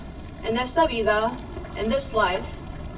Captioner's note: speaks in foreign language